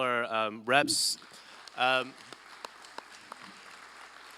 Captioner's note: applause